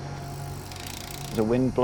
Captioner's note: bright music; wheel spinning